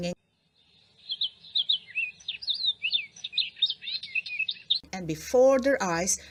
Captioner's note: birds singing